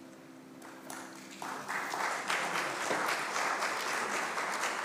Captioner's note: congregation clapping